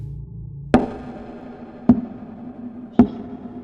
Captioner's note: cane thudding